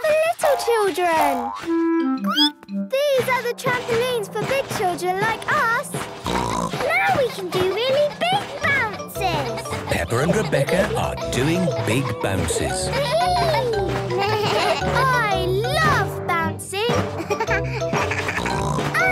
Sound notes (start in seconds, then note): 2.0 squeaks; 6.1 snorts; 13.2 giggles; 14.5 bleating; 17.0 giggles, snorts